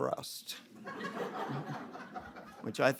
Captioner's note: audience laughing